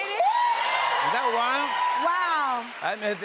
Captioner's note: cheers and applause